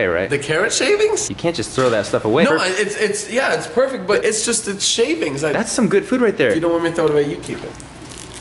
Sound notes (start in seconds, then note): 2.5 stuttering